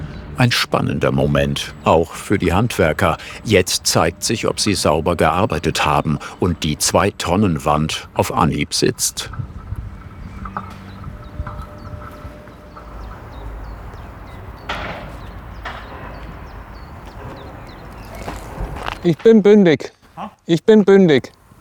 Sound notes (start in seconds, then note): 13.3 birds chirping